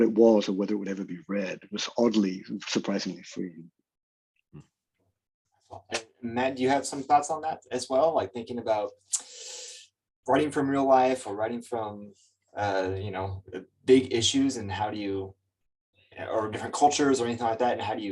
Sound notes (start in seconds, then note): 10.3 lip smack